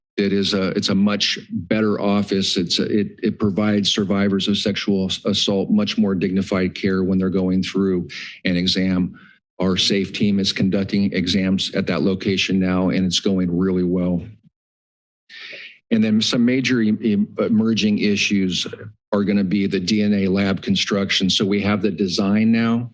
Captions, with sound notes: It is a, it's a much better office. It’s a, it-it provides survivors of sexual assault much more dignified care when they are going through an exam. Our safety misconducting exams at that location now and it is going really well. [pause] And then, some major emerging issues are gonna be the DNA lab constructions so we have the design now,